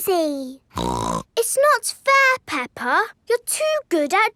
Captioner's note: snorts